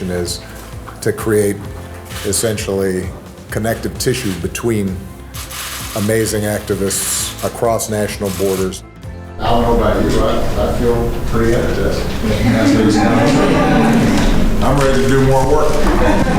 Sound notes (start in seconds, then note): 13.0 laughing